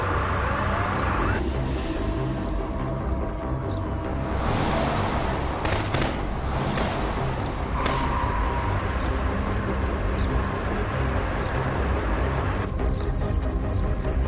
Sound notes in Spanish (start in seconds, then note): 5.6 Disparos